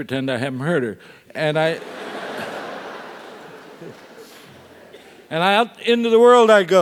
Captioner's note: laugh